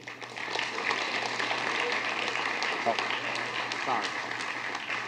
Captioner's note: applause